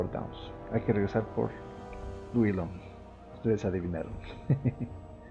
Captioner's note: laughs